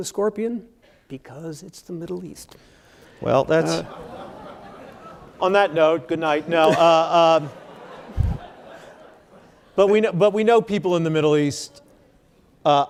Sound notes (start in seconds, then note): 3.1 audience laughing